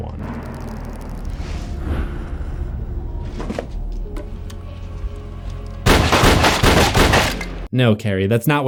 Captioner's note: gunshots